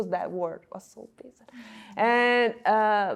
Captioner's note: audio blurs